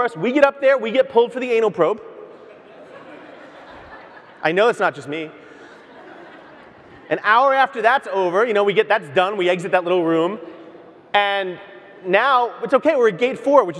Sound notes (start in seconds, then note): 2.3 audience laughs